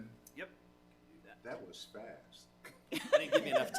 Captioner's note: people laughing